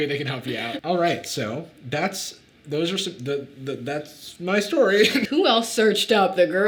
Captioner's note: laughs